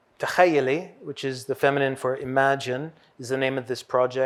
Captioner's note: hebrew